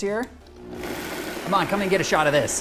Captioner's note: blender whirring